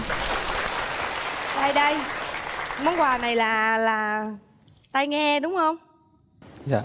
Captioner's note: applause